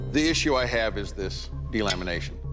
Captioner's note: clank